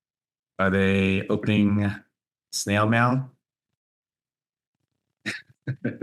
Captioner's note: laughs